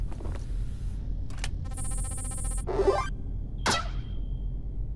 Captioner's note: happy scan noise x2!